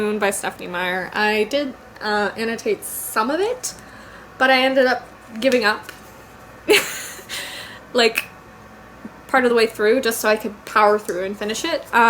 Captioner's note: laughs